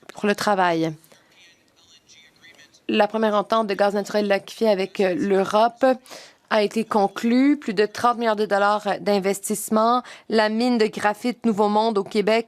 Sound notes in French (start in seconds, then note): 5.0 voix de l'interprète